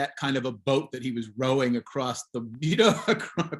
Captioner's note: chuckles